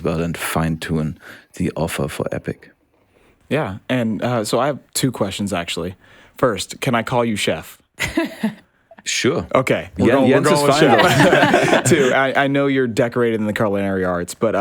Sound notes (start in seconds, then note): 8.0 laughs; 10.4 all laugh